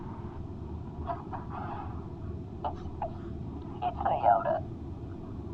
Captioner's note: caller sobs